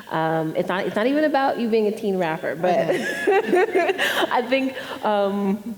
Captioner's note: laughs